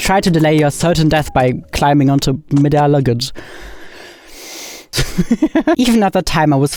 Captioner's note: inhales then laughs